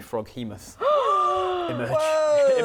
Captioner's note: gasp